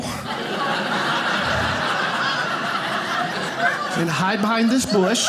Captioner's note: audience laughing